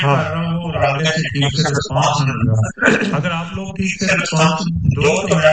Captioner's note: clears throat